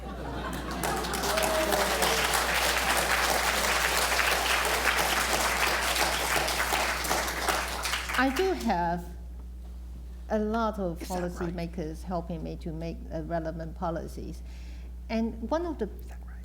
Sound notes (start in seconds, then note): 0.0 laughter; 1.6 applause